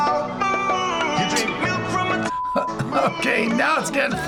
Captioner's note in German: Piep; lacht